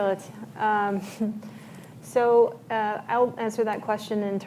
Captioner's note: laughs